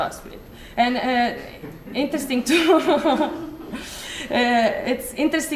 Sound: laughter

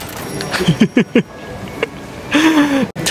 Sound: chuckles

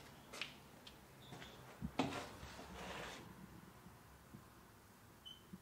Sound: wheel squeaking

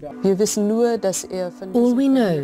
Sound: in foreign language

